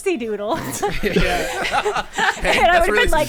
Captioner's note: players laughing